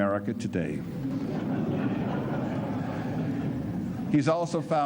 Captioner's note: laughter